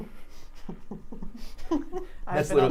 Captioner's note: giggling